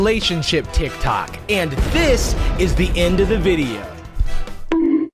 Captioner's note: mimicking Mr. Beast; bonk!